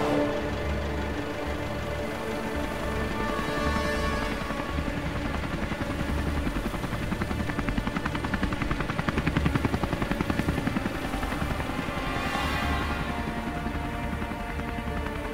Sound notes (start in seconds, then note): 3.8 helicopter passes over; 12.2 threatening music